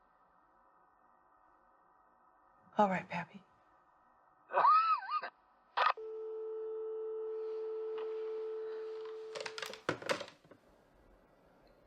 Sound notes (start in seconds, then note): 4.7 Pappy coughs; 6.0 dial tone buzzes